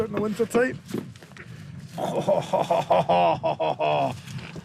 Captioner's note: chuckles